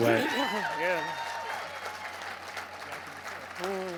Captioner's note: crowd cheers